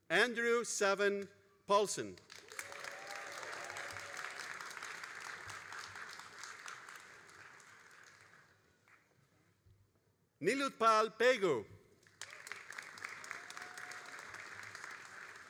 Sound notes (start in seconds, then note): 2.2 all applauding; 12.0 all applauding